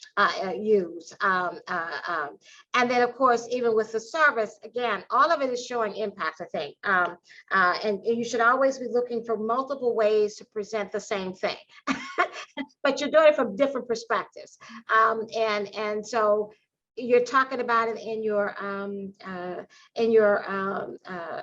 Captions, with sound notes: use? And then, of course, even with the service, again, all of it is showing impact, I think. And you should always be looking for multiple ways to present the same thing, (Laughter) but you're doing it from different perspectives. And so you're talking about it in your, in your,